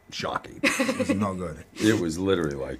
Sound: laughs

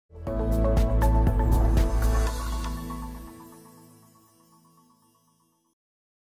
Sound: upbeat music; logo swooshing

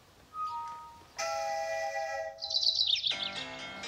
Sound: phones Chiming

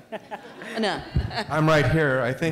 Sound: laughter

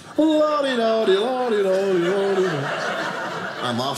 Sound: audience laughing

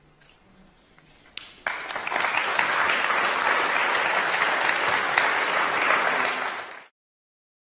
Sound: applause

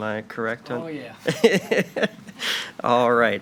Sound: laughing

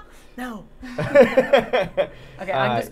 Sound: Safiya laughing; laughing

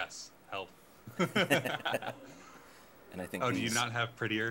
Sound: laughing

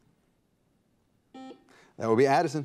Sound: buzzer beeps

